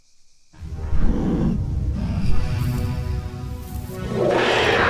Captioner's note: growling; roar